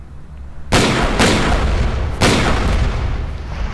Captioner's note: gun shots